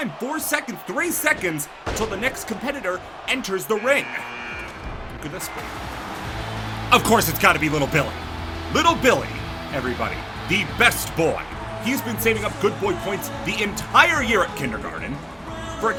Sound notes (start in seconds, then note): 4.0 buzzer buzzes